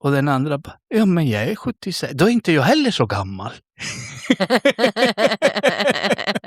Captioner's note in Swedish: skratt